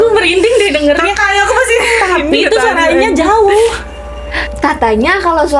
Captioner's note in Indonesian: tertawa